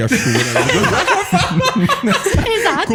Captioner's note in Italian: laughter